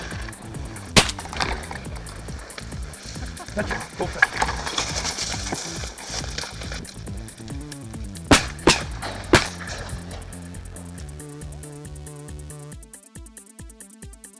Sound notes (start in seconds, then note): 0.0 gun fires; 8.2 gun fires